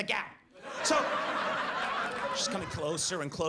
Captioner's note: audience laughs